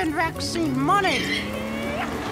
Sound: engine revs; parrot squawks

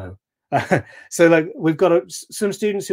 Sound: chuckling

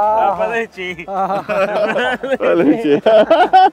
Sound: laughs

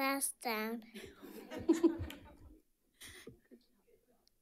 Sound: audience chuckling

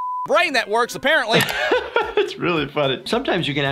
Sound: beep; laughter

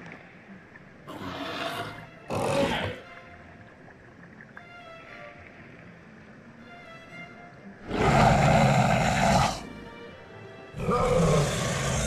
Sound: metriacanthosaurus Sounds

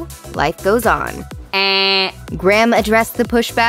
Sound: vocalized buzzer sound

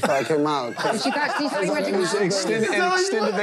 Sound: overlapping chatter

